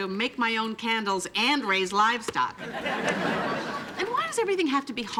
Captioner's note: audience laughing